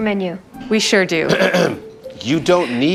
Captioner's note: clears throat loudly